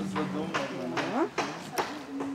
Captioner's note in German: Hämmern